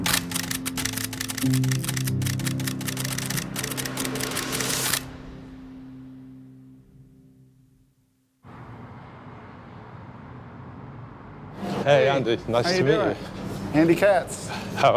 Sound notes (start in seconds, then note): 0.0 camera shutter clicking; 8.2 traffic humming